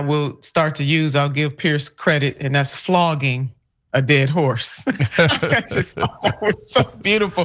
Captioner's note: laugh